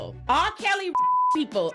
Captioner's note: beep